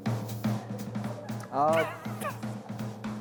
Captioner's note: the staff giggles